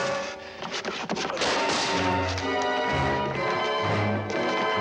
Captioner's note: wood clatters